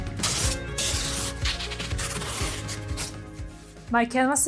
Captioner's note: tape scratching